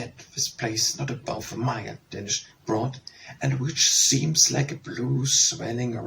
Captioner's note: Danish